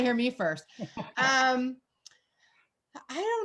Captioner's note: laughing